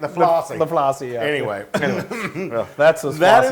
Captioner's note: laugh